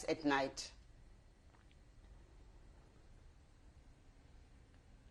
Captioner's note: pauses for 7 seconds